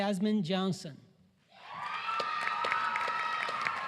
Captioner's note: applause